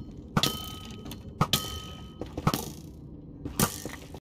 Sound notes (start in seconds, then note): 0.3 arrow ding; 2.3 thud; 3.2 bow twang